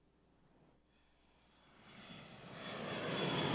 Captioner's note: airplane taking off